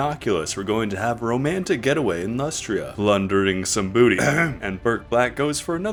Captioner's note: ahem